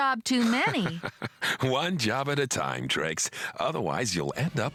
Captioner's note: chuckling